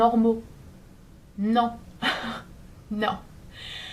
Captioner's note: haha